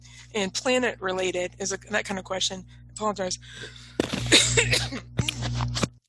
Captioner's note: coughs